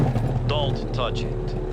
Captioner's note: engine turns over